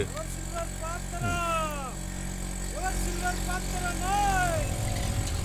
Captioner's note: vendor selling vessels calling out